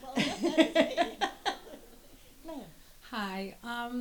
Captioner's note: they laugh